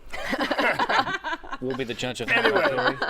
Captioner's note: laughter